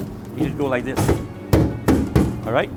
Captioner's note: bang